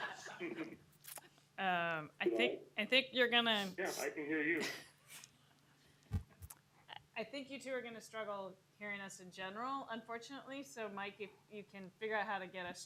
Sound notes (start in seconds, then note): 4.6 laughter